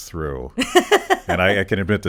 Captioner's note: laughs